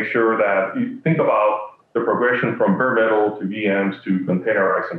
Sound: conversation fading

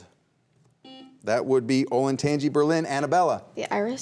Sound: buzzer beeps once

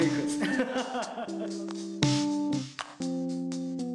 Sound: laughing

